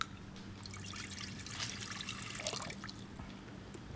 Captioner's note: juice sloshing